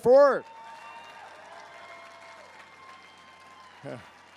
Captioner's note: crowd applauds